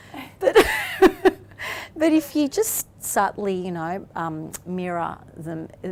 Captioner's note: laughs